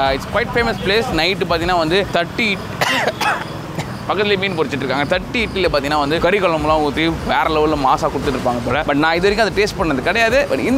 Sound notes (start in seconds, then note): 2.8 coughs